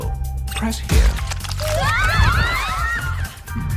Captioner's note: screaming